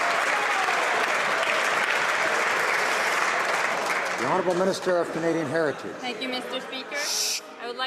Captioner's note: cheers and Applause